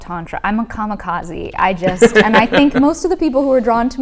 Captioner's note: laughs